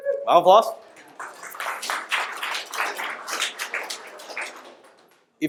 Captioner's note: audience applause